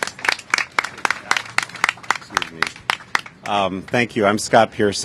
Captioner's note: applause